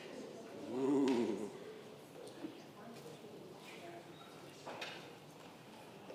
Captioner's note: congregation murmurs